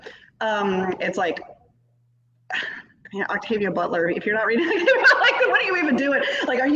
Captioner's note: laughs